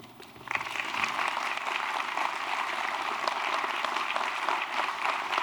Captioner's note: applause